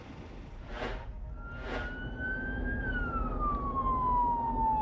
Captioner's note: sirens